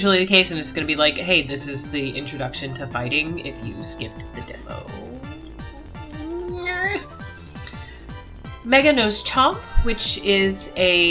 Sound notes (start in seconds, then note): 5.0 trails off awkwardly; 7.1 noise of distress